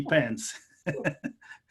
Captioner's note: laughing